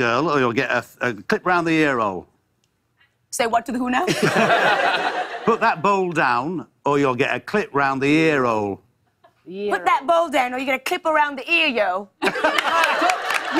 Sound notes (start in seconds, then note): 4.0 laughter; 12.2 laughter and applause